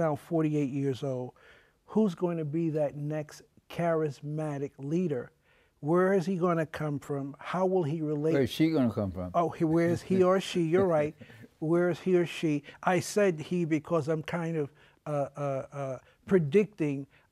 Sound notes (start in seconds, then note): 9.8 laughs